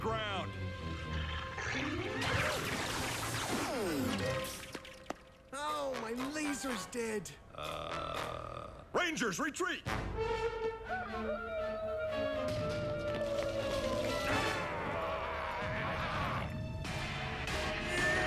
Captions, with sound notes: STAND YOUR GROUND! OH, MY LASER'S DEAD. UH... RANGERS, RETREAT! [ HOWLING ] AARRGH!